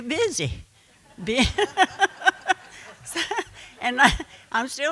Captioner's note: laughing